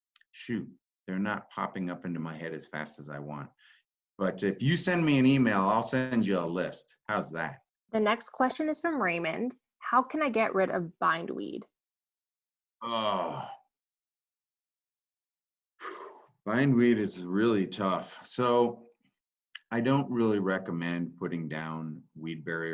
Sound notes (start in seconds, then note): 12.8 groans; 15.8 exhales